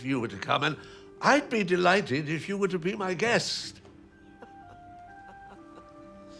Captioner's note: chuckling